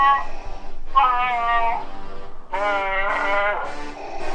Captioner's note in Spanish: Grito y sonido de Chuwacca